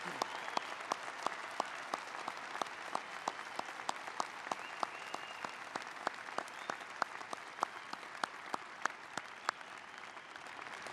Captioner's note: applause